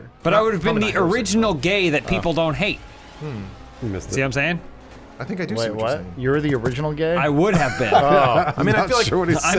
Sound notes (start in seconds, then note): 7.4 laughter